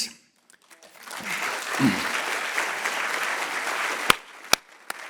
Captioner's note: audience clapping